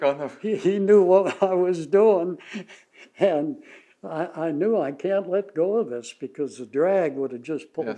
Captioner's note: laughs